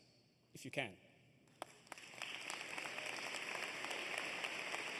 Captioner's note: applause